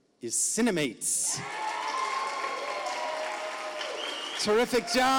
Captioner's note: audience applauding